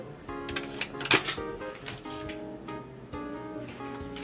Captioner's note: paper tearing; upbeat cheerful music